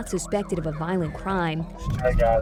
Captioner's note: officer on radio